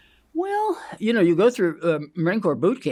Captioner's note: inhales